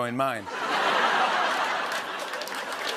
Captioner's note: laughter; applause